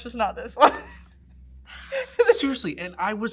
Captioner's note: laughs